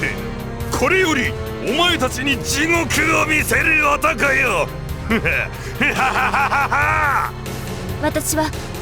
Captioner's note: laugh